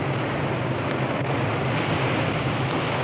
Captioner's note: none